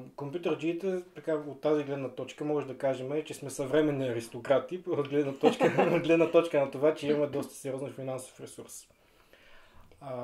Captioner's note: laughs